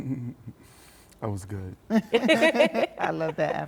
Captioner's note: group laughs